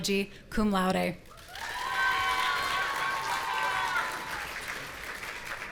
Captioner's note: audience cheering